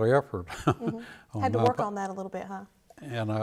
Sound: laughs

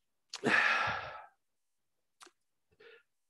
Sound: sighs

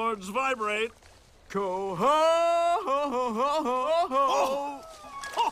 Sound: bellows; guffaws

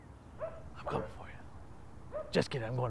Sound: dog barking in distance

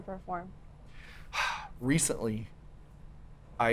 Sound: sighs

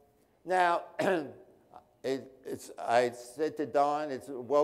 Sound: clears throat

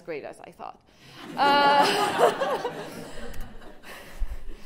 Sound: laughter

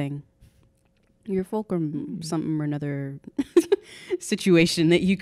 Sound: laughing

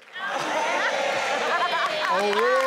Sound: laughing

